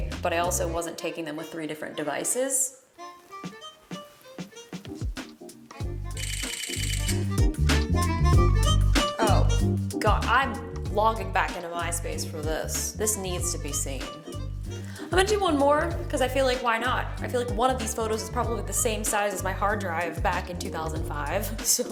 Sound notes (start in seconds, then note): 5.8 upbeat music; 6.2 shutter clicking